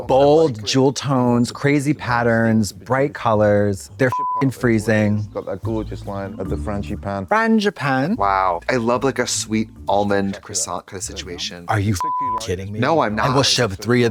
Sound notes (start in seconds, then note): 4.1 beep; 12.0 beep